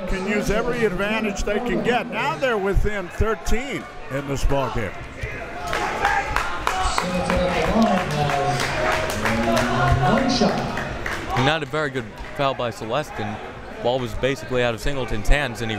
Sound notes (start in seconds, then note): 5.1 crowd members shouting; 9.4 muffled speaking over speaker system